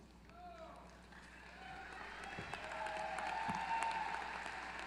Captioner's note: applause